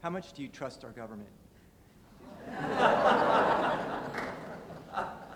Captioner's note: laughter